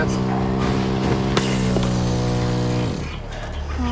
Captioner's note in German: Der Motor verstummt